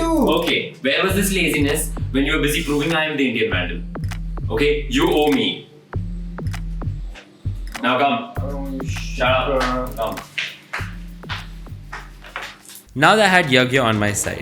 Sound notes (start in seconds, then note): none